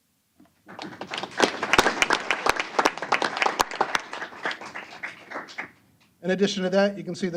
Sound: applause

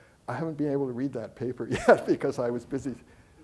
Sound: chuckling; audience chuckling

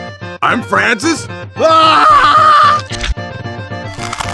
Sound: scream; gulp

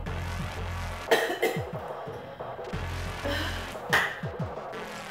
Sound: woman coughs

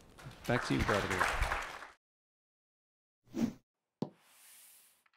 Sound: audience clapping

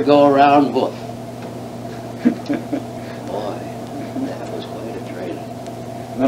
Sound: laughs

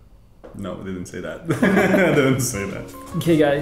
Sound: laughs

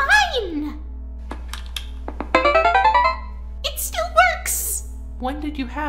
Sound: button clicking, electronic startup noise

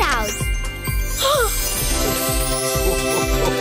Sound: MB gasps

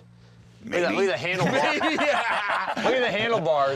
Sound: laughs

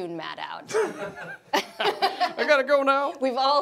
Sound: laughing

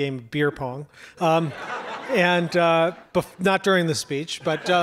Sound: audience laughs

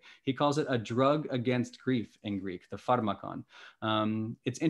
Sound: speaking greek

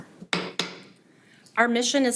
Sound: gavel bangs

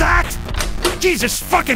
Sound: Demo's bedroom door opens

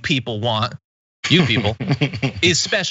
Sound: laugh

